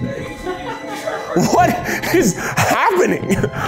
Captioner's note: crew members laughing